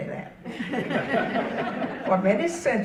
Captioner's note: audience laughing